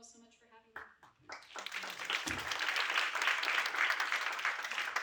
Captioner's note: applause